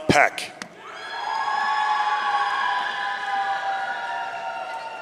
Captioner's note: audience cheering